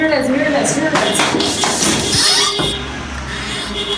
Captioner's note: truck horn honking